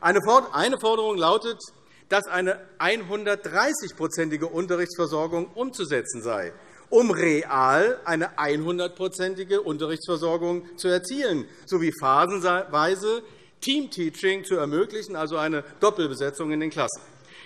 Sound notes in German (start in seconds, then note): none